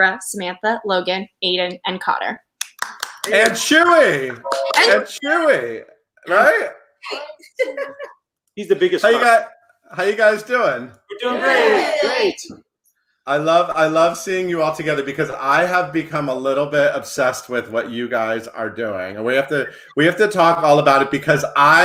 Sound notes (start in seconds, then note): 2.6 clapping; 7.0 laughs